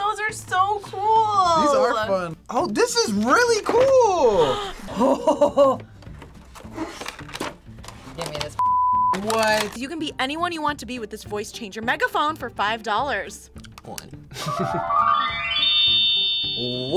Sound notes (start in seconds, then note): 4.4 React gasps; 4.4 laughs; 14.3 laughs; 15.2 megaphone chimes